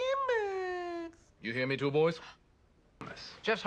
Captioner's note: high voice; deep voice